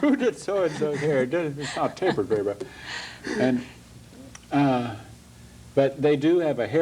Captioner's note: laughs